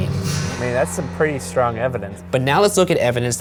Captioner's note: voiceover